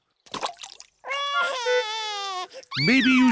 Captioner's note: cries